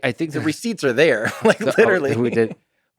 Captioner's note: Tim laughs